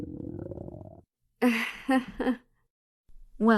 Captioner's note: nervous chuckle